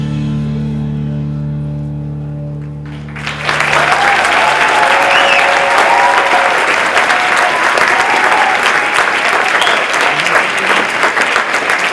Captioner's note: applause